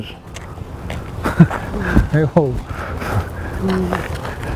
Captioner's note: laughs